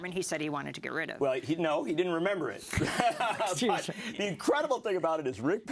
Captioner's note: laugh